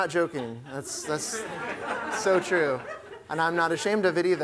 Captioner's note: laughter